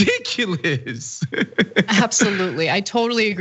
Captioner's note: laugh